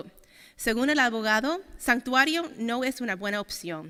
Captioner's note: speaking Spanish